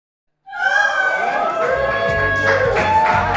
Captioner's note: cheers and applause